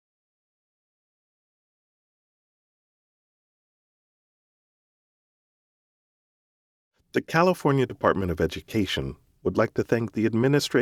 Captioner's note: pause